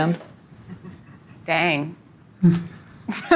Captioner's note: laughing